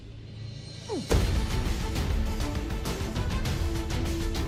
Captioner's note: thud